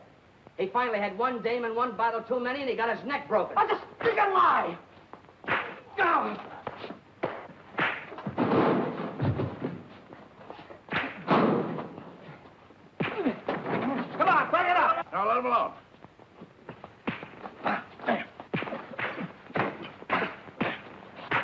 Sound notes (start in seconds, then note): 5.0 fists thudding; 8.0 lockers banging; 10.5 fists thudding; 16.6 fists thudding